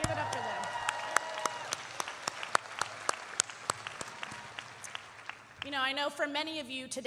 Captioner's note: audience cheering and applauding